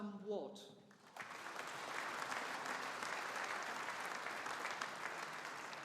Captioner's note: audience applauding